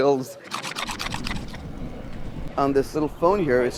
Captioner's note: knife scraping